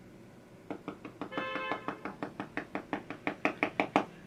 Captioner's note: typing sound